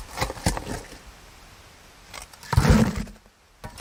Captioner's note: digging sounds